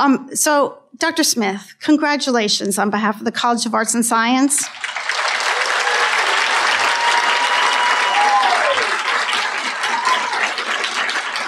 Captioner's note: applause